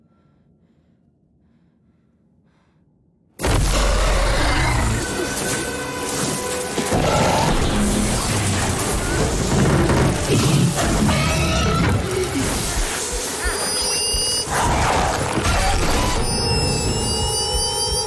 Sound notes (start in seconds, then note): 3.7 growling; 6.9 growling; 9.1 creaking; 10.6 screeching; 14.2 growling